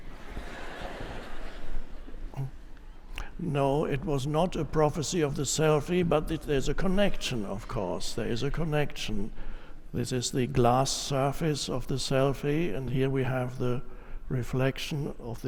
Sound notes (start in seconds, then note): 0.1 audience laughs